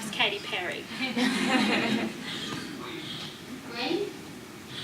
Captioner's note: audience laughs